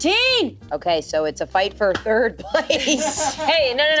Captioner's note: laughs